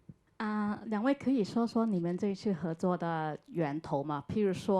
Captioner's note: Mandarin